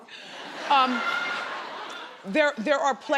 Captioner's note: crowd laughs